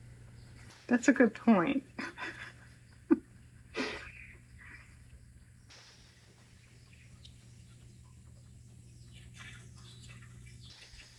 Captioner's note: laughs